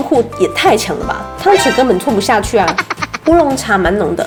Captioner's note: laughing